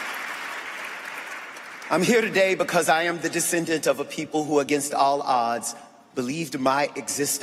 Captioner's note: applause